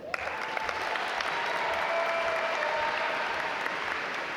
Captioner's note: audience applaud